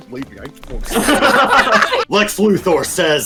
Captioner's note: laughter